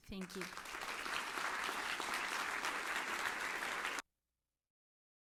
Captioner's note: applause